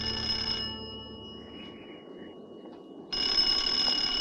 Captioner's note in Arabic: يرن الهاتف